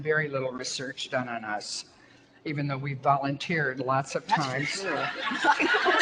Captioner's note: audience laughter